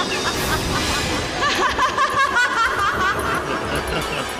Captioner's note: laughs